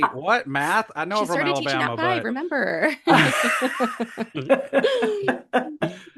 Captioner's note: hahaha